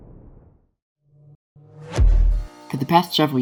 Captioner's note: whoosh; up-beat music fades in